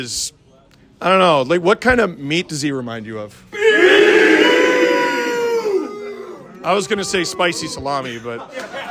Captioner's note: crowd: BEEF, Mooing